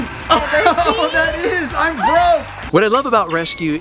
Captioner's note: laughs